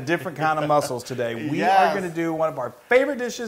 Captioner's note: laugh